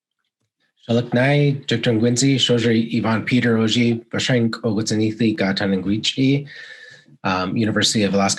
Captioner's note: foreign language